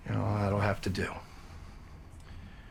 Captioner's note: none